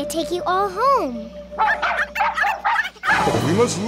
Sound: barking

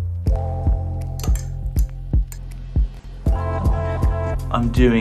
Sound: lively music; spoon stirring

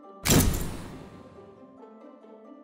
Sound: door slams; suspenseful music

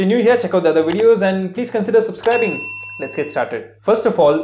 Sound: chime

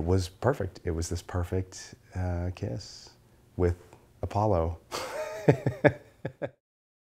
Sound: laughter

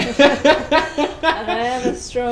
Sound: both laugh

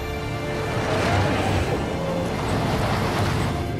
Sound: car pulsing; tires grinding

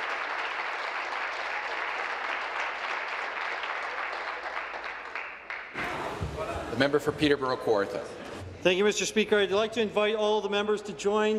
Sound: applause

